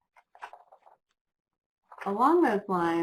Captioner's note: page flips